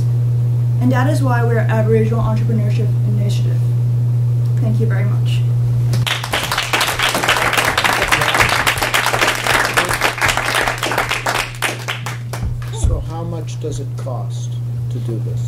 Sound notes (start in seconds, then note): 6.0 applause